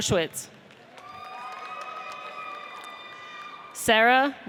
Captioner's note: audience cheers